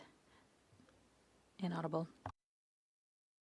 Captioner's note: speaking French